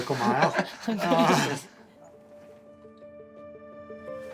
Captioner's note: laughing